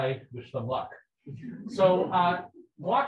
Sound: people laughing

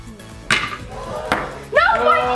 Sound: ball clacks; disappointed crowd

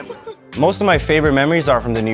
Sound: laughs

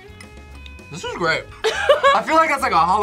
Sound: laughs

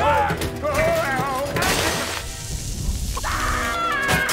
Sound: sizzling; shrieking

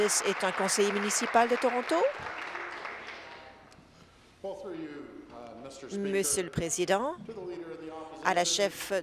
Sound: applause

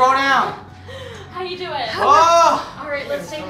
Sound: sighing

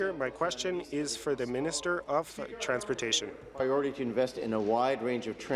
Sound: speaking in French

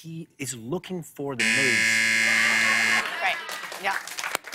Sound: buzzer

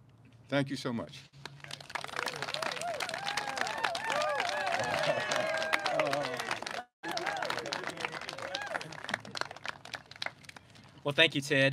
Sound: clapping

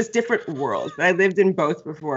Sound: Brennan laughs

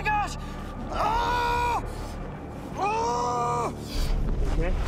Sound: screaming

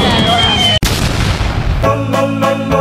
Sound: explodes

